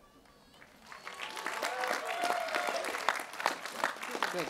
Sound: cheering

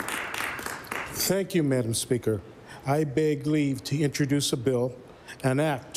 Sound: applause

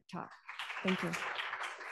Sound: applause

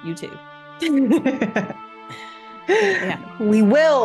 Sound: laugh

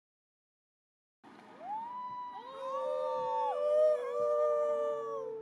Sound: coyotes howling

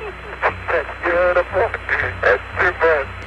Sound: laughing

